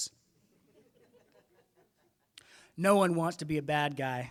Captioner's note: audience laughing